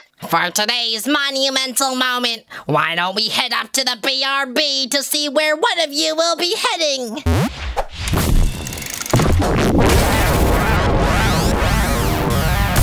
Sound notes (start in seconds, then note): 7.1 crashing sound; 7.2 jumping noise; 8.4 large mechanic whiring sound